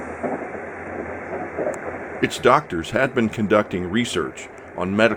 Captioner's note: train gently clacking